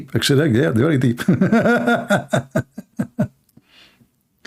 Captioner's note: Ketawa